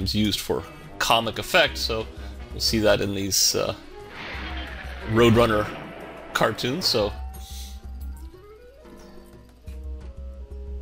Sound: explosion

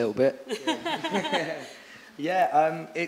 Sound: laughing

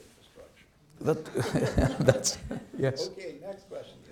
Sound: laughing

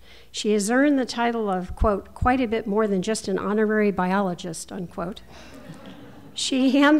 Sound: laughter

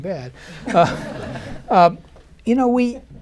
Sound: laughter

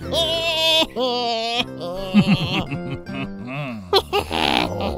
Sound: couple laughs

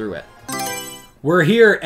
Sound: Mario Selection Sound

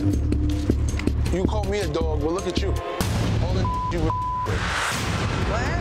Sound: beep

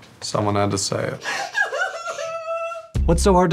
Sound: cries

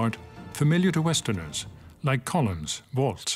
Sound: speaks French

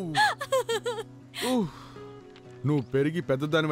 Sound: exhales

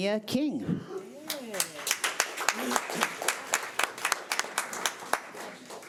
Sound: audience applauding

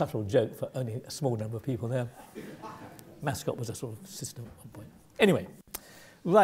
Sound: laugh

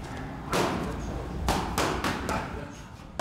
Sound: thunking

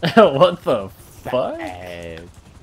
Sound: laughs

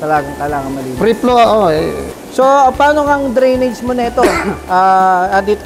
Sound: murmur

